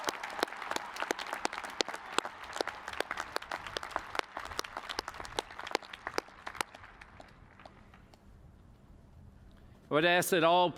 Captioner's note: cheers and applause